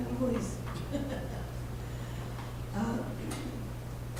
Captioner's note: laughter